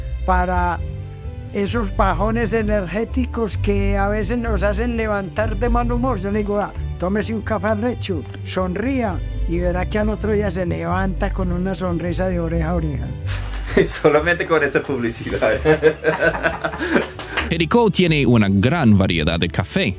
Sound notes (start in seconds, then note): 15.3 laughs